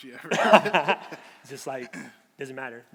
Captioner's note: laughing